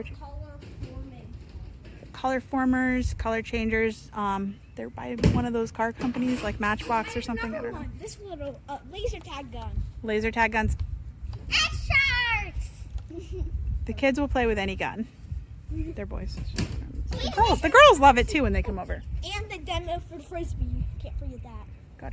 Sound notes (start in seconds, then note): 13.0 laughs; 17.1 murmurs